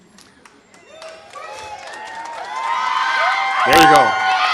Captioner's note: audience cheers